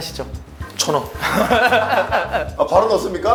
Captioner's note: heh heh heh heh